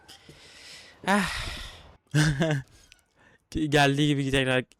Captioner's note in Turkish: iç çeker